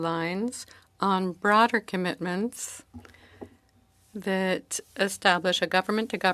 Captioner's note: speaking French